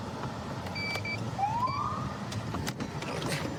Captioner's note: siren chirps